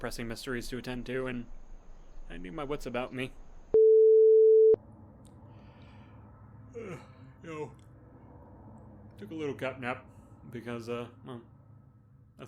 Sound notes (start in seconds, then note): 6.7 yawn